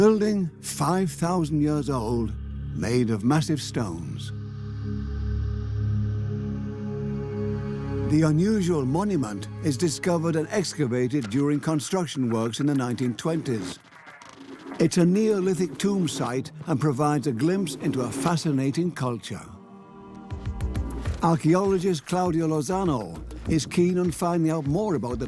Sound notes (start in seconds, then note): 4.9 reverberating tone